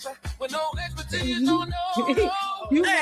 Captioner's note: laughing